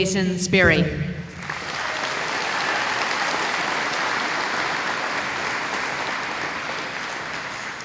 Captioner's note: applause